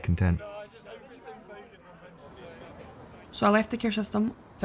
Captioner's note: people chattering